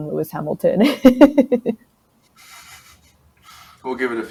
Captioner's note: laughs